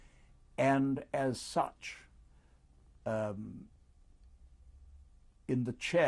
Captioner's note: pauses for 3 seconds